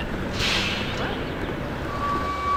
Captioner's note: bus Engine stops; truck beeping